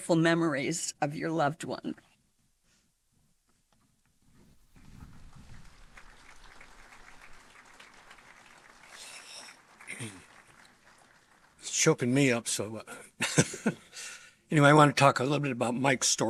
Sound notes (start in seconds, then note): 7.3 applause